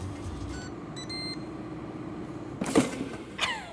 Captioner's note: fryer beeping